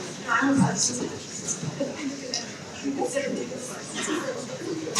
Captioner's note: people chattering